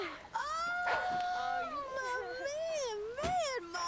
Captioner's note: dog barks